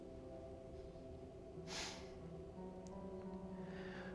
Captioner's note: Ben sighs